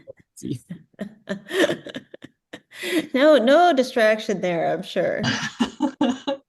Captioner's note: laughs